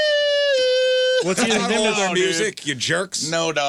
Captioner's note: imitates guitar